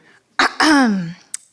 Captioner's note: coughs